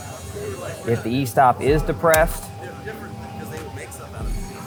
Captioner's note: machine whirring; people chattering